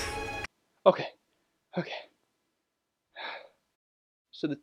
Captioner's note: sighs